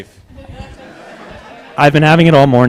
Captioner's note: laughter